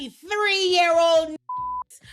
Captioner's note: beep